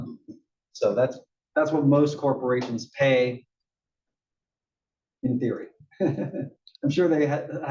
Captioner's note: laugh